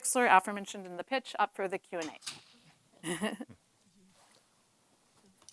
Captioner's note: laughs